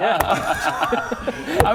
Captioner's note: frugal laughter